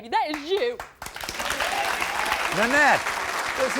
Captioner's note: crowd cheering